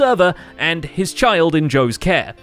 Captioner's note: none